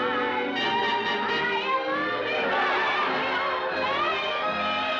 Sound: shouting; riotous laughter

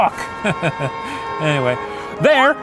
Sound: car horns honk

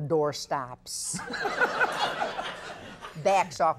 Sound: audience laughing

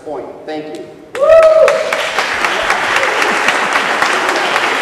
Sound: cheers and applause

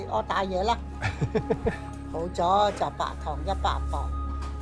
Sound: laughs

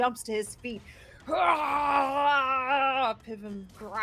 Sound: groans

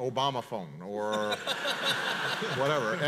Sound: audience laughs

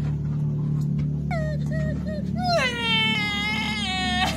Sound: sobbing

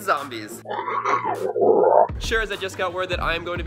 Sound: growls

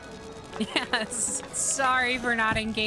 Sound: laughing

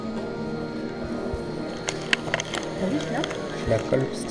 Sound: in french

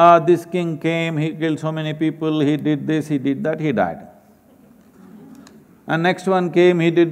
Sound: laughter

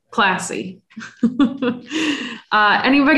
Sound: laughs

